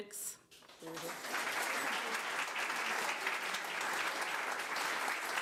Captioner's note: crowd applause